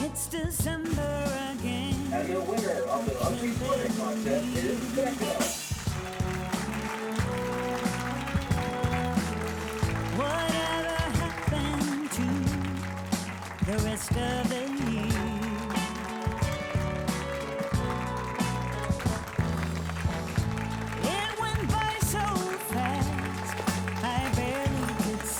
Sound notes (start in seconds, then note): 2.9 drum rolling; 6.2 group applauding; 6.2 upbeat music; 15.8 group applauding; 15.8 upbeat music